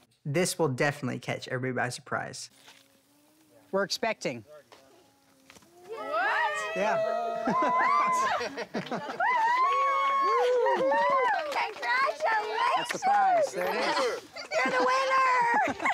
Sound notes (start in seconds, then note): 5.1 cheering; 7.1 laughs; 8.9 cheering; 15.7 laughs